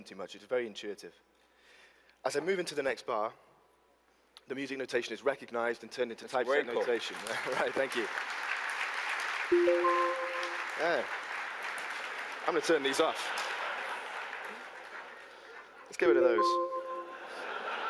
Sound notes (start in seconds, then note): 12.4 applause